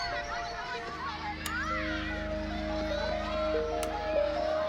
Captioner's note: children shouting and laughing in distance